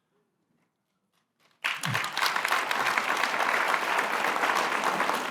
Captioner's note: applause